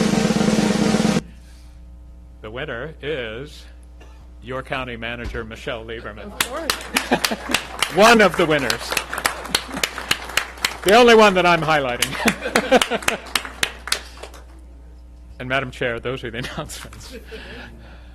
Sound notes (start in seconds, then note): 0.0 drum roll; 8.6 applause